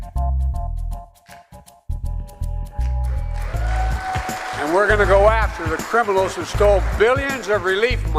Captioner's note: applause